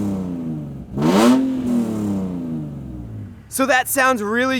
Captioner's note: loud engine revs